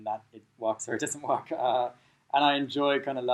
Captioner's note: chuckling